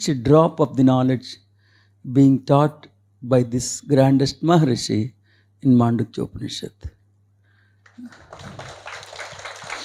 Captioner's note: clapping